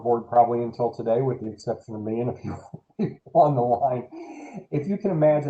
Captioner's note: laughter